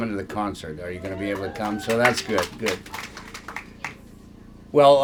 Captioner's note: applause